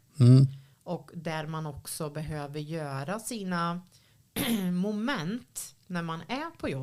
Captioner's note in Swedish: harklar sig